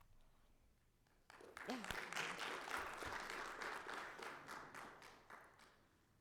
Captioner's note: audience applauding